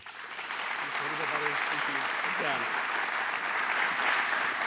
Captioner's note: applause